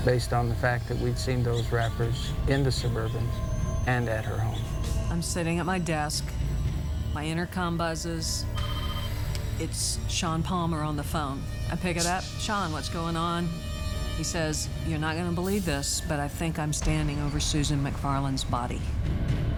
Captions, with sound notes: based on the fact that we'd seen those wrappers in the suburban and at her home. - I'm sitting at my desk, my intercom buzzes. (intercom ringing) It's Shawn Palmer on the phone. I pick it up, "Shawn, what's going on?" He says, "You're not go gonna believe this "but I think I'm standing over Susan McFarland's body."